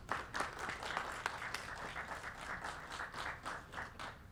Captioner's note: applauding